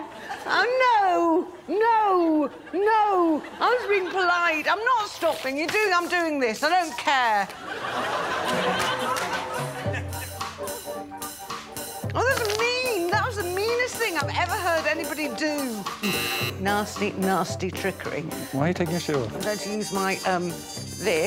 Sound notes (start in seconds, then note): 16.0 buzzer buzzes